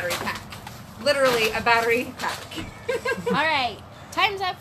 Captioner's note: laughs